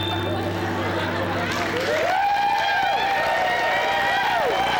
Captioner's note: cheers, applause